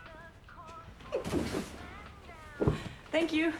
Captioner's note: box thudding